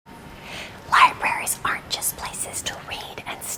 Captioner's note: whispering